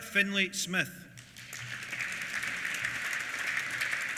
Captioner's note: applause